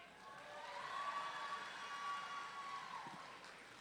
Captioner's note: audience cheering